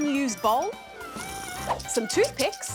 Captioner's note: slurps